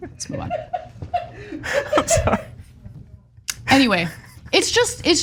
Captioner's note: laugh